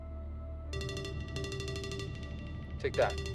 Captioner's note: phone ringing